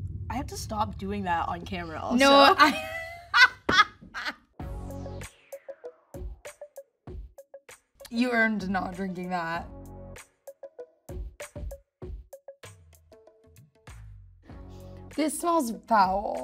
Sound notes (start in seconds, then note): 0.0 suspensful music; 2.4 Ayo laughing; 4.7 funky music; 10.0 funky music